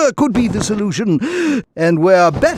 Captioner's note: wheeze